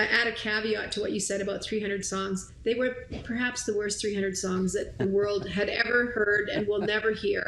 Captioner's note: chuckling